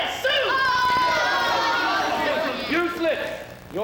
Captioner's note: women jeering